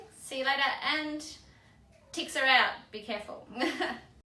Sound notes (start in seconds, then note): 3.7 laughs